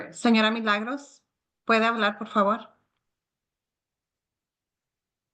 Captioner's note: speaking Spanish